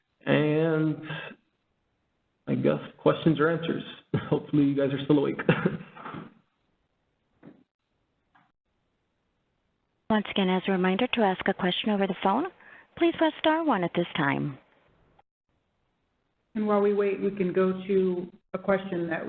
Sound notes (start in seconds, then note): 5.3 chuckles